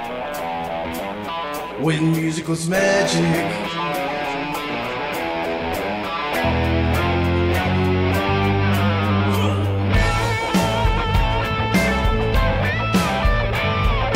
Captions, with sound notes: WHEN MUSIC WAS MAGIC (GRUNT!!!!!!!!!LOL!!!!!!!!) WAH WAH